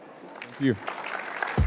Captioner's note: applause